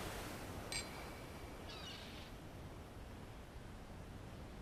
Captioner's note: seagulls squawking; waves splashing; glass clinks